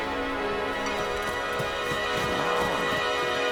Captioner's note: running footsteps